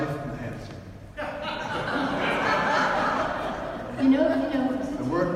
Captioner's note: audience laughs